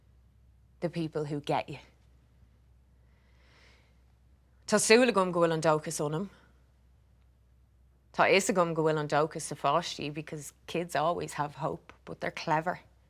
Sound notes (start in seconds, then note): none